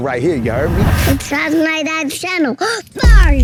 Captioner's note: gasps